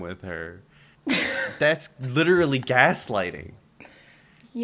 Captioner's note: laughter